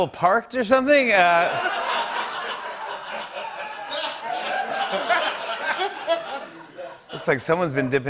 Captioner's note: laughter